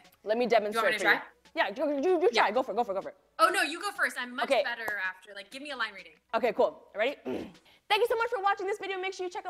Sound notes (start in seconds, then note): 7.2 clears throat